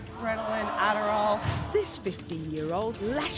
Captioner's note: gasping